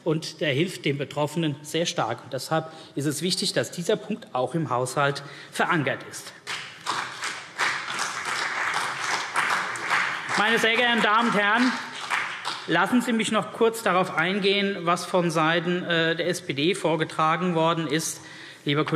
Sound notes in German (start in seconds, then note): 6.4 Beifall CDU und BÜNDNIS 90/DIE GRÜNEN